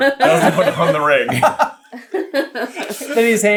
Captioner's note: laughter